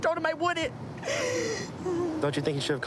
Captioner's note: sobbing